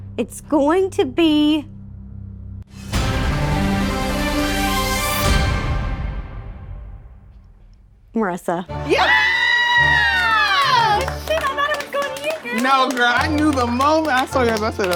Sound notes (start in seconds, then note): 2.2 dramatic music; 9.2 all clapping; 10.5 triumphant music